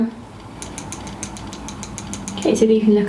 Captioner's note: brush taps